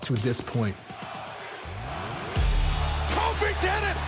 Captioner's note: crowd chants '"kofi"